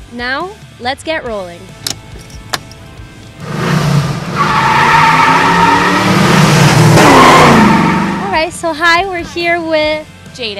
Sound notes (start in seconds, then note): 2.0 button clicking; 3.0 engine revving; 5.1 tires squealing